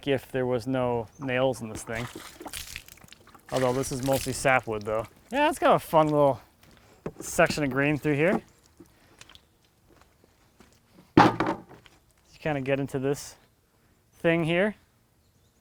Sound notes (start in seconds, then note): 1.1 water sloshing